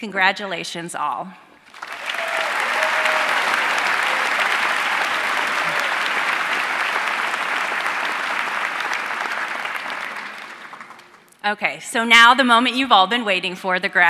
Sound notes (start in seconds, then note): 1.7 audience cheering and applauding